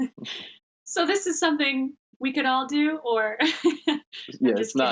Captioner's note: laughing